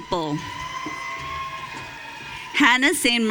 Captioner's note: audience cheering